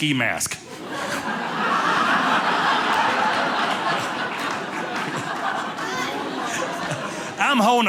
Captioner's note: audience laughing